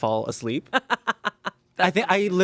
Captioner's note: Amanda laughs